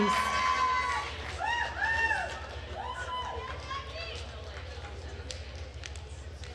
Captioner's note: attendees cheering and applauding